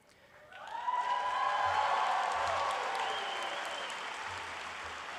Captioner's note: applause